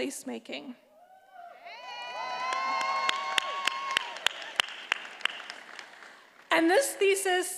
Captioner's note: attendees applauding and cheering